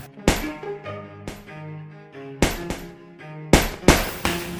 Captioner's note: punches thudding